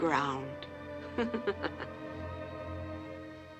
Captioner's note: laughs